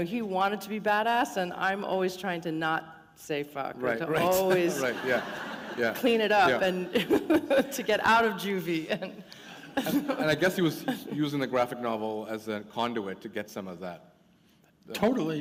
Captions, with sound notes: He wanted to be bad ass and I'm always trying to not say fuck, and to always clean it up [chuckle] and to get out of juvie and... And I guess he was using the graphic novel as a conduit to get some of that.